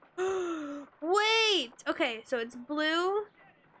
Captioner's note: gasp